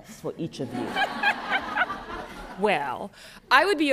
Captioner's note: laughter